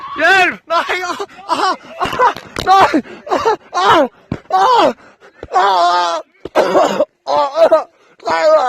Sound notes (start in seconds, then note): 3.9 axe pounding, while guy screams